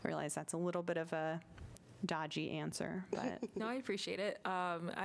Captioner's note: laughter